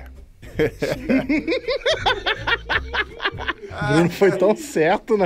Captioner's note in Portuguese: risadas